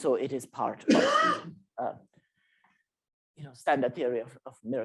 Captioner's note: coughing